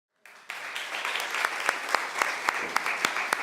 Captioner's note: applause